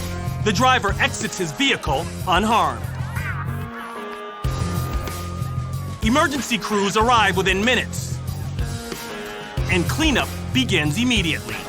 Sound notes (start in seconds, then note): 2.7 siren wailing